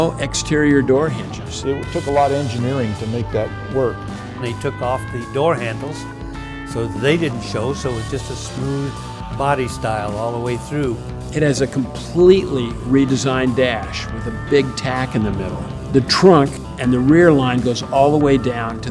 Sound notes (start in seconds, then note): 11.8 pat